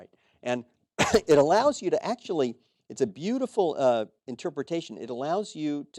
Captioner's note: cough